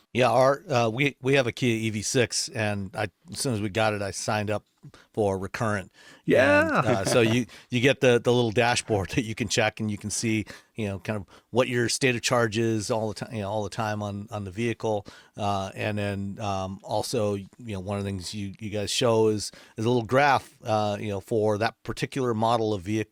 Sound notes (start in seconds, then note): 6.4 chuckles